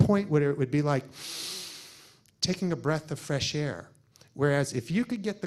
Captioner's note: deeply inhales